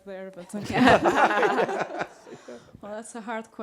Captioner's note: panelists laughing